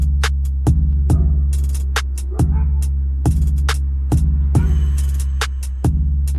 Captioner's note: dog barking